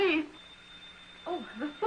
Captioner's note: phone rings